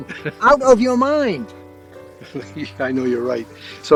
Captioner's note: chuckles